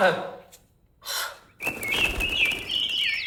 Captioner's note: sighs angrily; wings flap